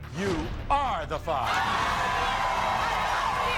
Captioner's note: audience gasping